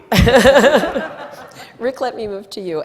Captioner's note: laughing